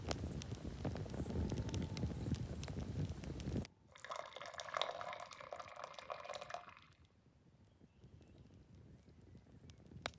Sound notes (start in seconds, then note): 0.0 fire crackling; 3.9 drink pouring